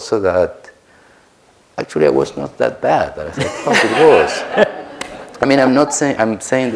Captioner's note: laughter